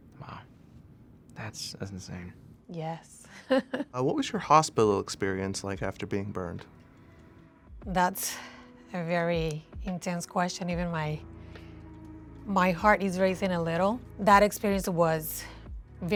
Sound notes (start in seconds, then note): 3.3 chuckling